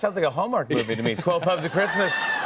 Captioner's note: cheers